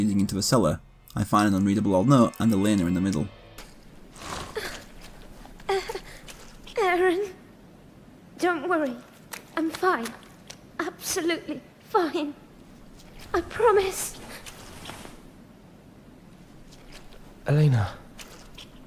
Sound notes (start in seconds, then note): 4.2 in-game audio